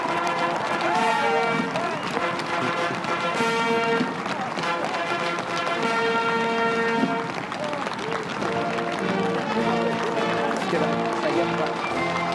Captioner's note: cheers and applause